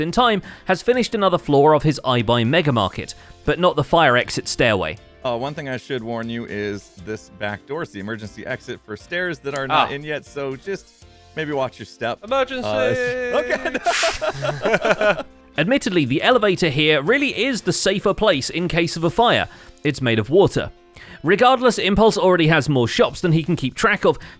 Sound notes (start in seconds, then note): 12.6 laughs